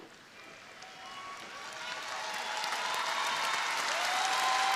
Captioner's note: crowd applauding